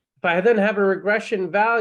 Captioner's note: none